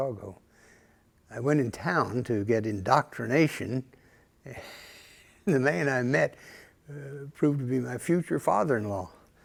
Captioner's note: chuckle